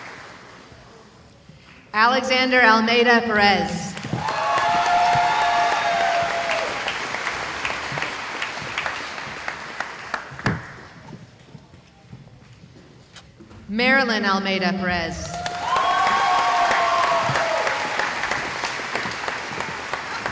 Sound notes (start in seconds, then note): 0.0 applause; 4.0 cheering; 9.3 applause; 15.2 cheering